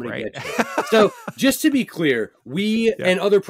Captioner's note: laughs